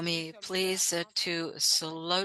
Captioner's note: speaking French